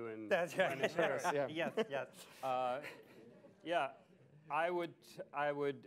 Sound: laughs; laughter

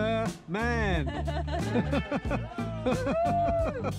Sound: laughs

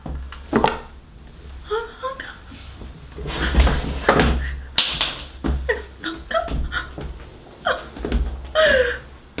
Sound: crying sounds from Bria/Melania

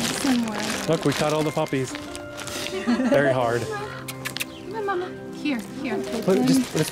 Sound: laughter; kissing sounds

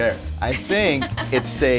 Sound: chuckle

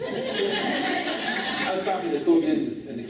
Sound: laughing

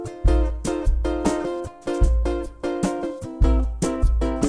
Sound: beatboxing

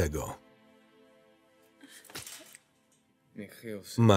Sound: slapping

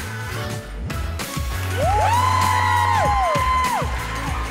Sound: audience cheering

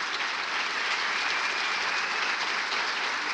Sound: applause

